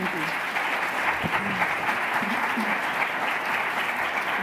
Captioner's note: audience applauds